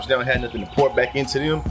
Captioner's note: birds Chirping